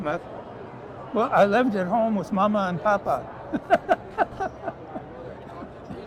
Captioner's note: laughs